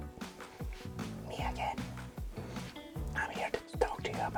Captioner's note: whispering